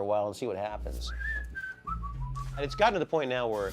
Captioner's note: whistling